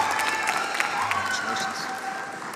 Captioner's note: applause